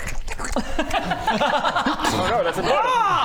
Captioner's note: alarmed laughter